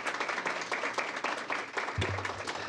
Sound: applause

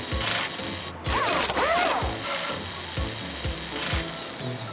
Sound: loud drilling sounds

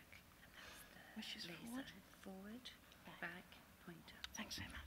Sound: whispering off-microphone

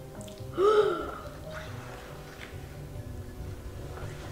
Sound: gasping

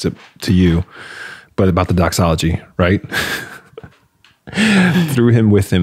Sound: laughing

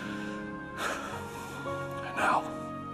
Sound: sighing

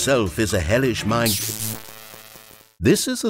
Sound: electric sparks

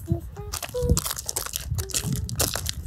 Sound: gravel crunching

